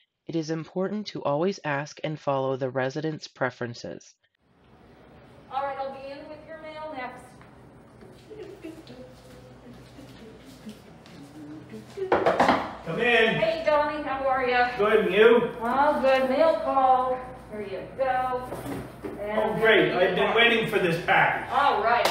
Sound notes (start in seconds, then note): 8.8 humming; 8.8 knocking